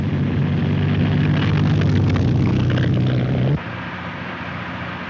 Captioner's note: car engine revs